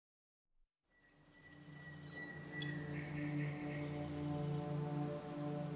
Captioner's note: beeping, trilling